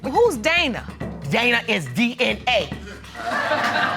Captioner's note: audience laugh